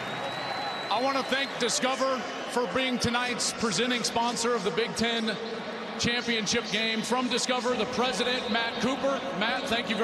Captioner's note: cheers and applause